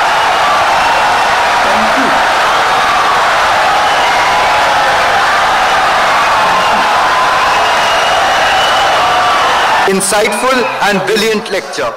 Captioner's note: wild applause and cheering for 17 seconds